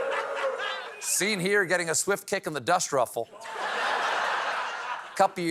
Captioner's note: booing